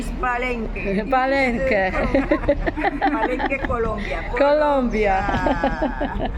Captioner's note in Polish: śmiech